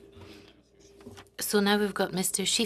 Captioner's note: speaking French